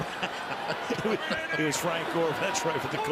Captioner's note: laughs